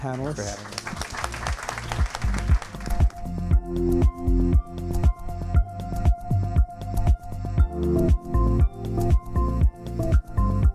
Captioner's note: applause